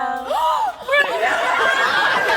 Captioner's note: crowd laughs; gasp